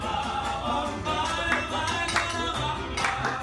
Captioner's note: clapping